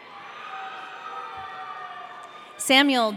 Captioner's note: audience cheering